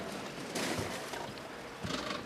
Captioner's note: splash